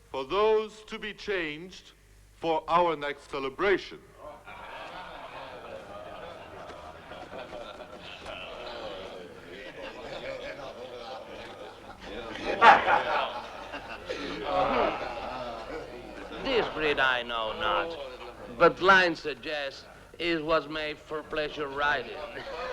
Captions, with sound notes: for those to be changed for our next celebration. (Crowd murmuring) (Men laughing) - This breed I know not, butt line suggest it was made for pleasure riding.